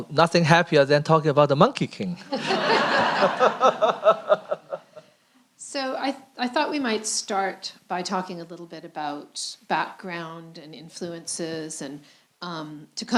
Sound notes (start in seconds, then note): 2.2 laughter